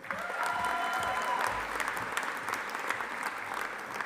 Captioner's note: audience applauding